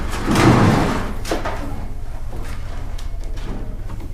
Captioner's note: cabinet thuds